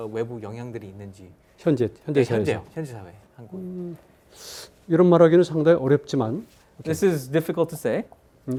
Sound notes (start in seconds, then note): 1.8 speaking in Korean